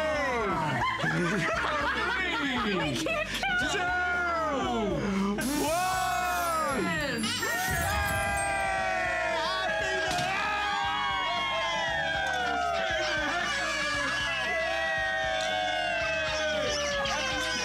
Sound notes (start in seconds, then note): 0.6 laughter; 5.7 cheering; 10.9 cheering